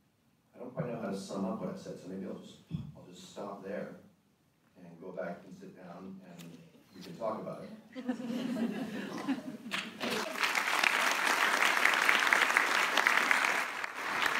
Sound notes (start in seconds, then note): 9.7 applause